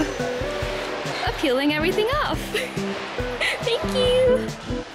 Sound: soft laughter

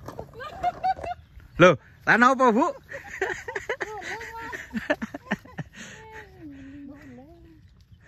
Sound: laughs

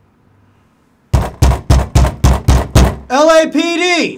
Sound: pounding

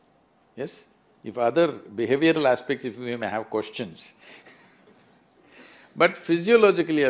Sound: laughs

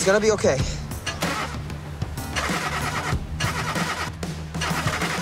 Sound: engine grinds

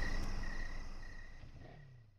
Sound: crickets chirping

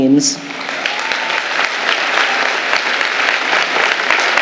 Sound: audience applauding

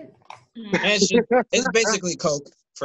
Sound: laughter

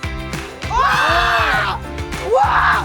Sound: feat. Screaming with excitement

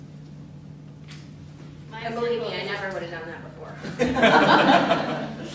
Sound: laughter

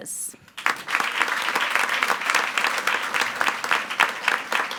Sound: attendees applauding

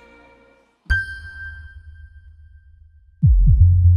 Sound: ping

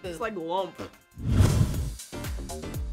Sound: whoosh; upbeat music

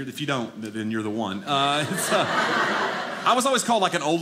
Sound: audience laughing

